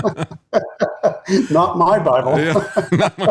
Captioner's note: laughing